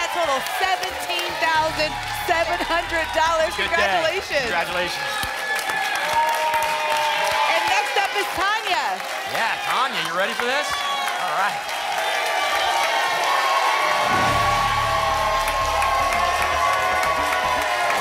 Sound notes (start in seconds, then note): 5.4 applause and cheering; 11.6 applause and cheering cont; 13.8 whoosh